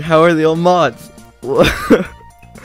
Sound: laughs

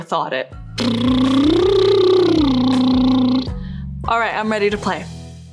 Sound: drumming lips

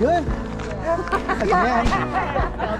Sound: crowd laughing

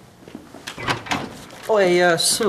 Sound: opening of door

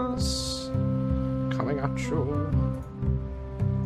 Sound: singsong

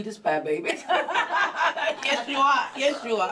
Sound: everyone laughs

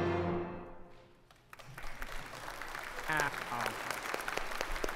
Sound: joyful orchestral music; congregation applauding

